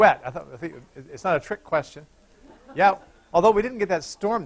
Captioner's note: laughter